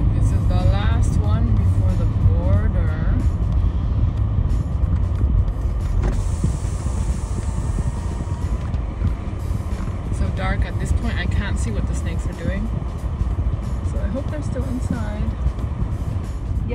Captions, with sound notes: This is the last one before the border. [sound of car window lowering] It's so dark at this point, I can't see what the snakes are doing so I hope they're still inside.